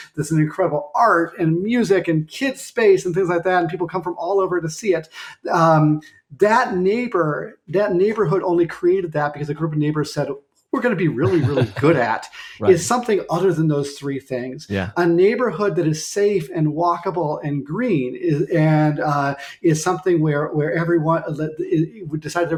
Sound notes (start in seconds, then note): 11.2 chuckling